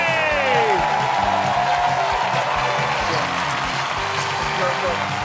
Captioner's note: cheers and applause